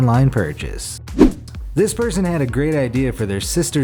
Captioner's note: air whooshes